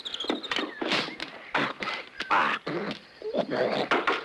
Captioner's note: snorting, grunting